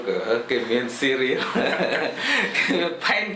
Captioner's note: laughs